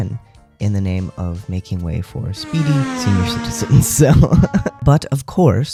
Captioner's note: laugh